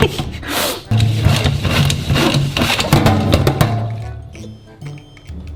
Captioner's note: Spina whooshing